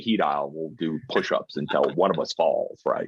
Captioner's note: chuckling